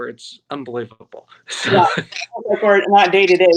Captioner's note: laughter